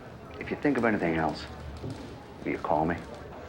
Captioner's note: typewriters clacking